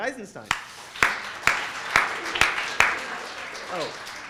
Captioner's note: presenter and audience applaud